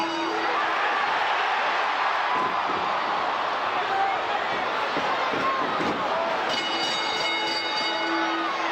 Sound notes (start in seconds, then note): 1.8 bell ringing; 1.8 crowd cheering